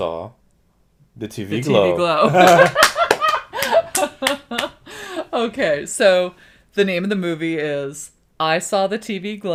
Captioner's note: laughter